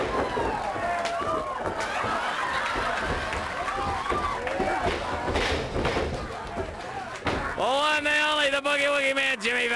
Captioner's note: crowd cheering